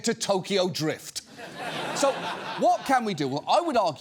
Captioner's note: studio audience laughs